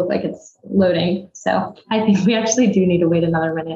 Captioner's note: chuckles